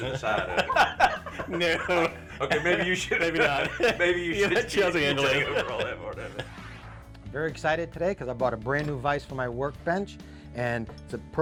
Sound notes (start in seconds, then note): 0.0 both laugh; 4.0 laughter